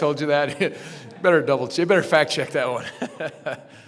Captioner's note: chuckles; laughs